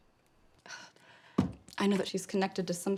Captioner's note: sighs